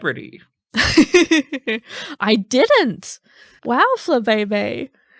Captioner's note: chuckling